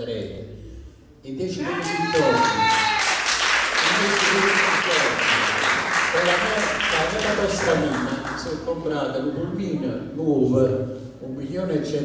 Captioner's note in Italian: Applauso